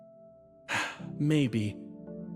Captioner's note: sigh